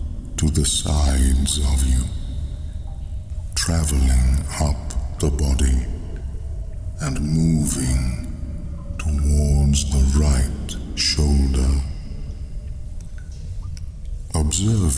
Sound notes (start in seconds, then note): 12.1 cave noises